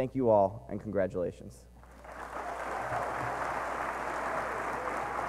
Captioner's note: applause